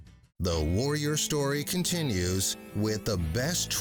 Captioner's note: voiceover